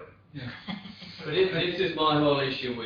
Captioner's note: laughter